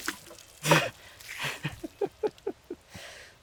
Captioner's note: laughs